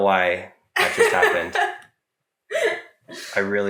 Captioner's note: laughing